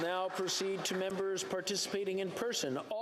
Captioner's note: cheering/Applause